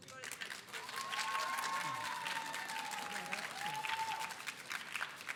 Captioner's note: audience applauding